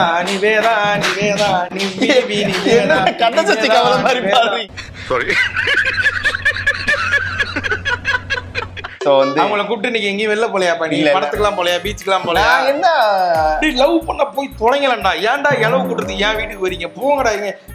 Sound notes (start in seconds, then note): 5.1 laughs